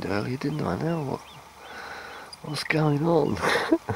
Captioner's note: laughs